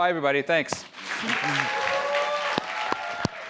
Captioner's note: applause